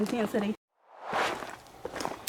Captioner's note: swoosh